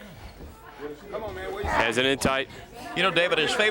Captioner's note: crowd chatter